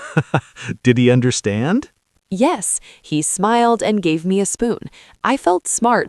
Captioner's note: laughs